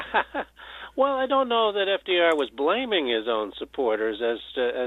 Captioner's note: chuckles